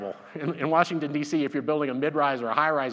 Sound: laughs

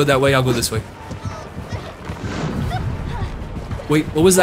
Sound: whooshing noise

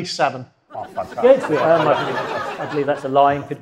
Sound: audience laughs

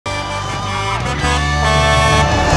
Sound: Blaze honking

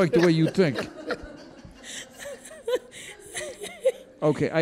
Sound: courtroom laughs

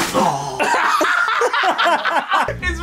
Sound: laughing again

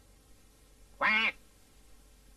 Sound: duck quacks

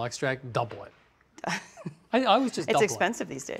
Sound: laughs

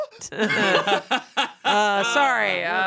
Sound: laughing

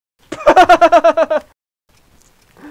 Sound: laughter

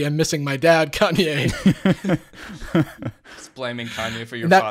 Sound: all laugh

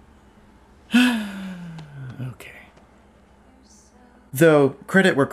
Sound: sighs

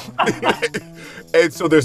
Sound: laughing

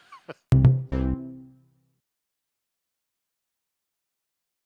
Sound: brand swoosh

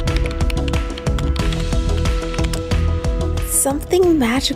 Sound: typing

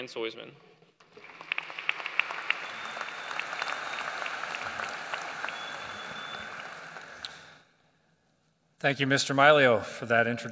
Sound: applause

